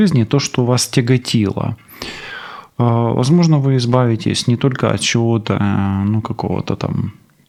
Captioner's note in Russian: фыркает; вздыхает